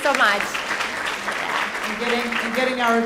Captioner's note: audience clapping